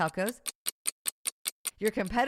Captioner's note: clock ticking